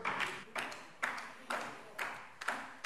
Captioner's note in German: Beifall DIE LINKE